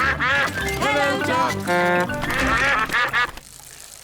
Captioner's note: toots horn; all quack